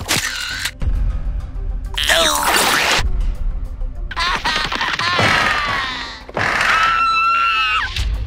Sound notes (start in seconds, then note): 4.2 sobbing; 5.0 screaming